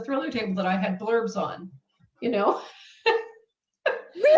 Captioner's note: laughs